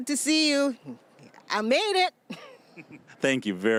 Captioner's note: chuckling